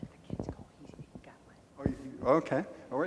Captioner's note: woman mumbling